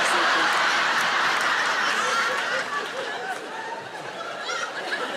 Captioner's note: audience laughing